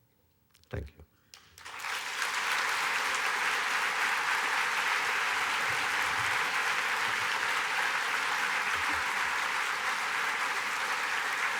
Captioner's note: applause